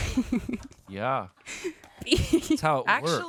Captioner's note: crew laughs